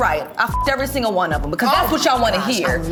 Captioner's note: beep